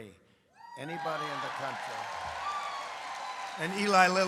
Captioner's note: applause